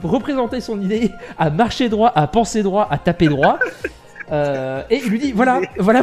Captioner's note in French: rires